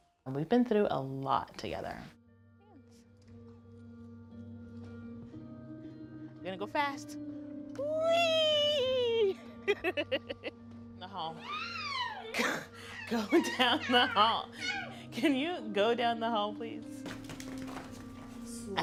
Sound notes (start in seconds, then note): 9.6 laughter; 11.4 soft joyful screaming